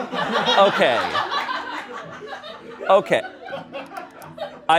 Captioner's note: laughter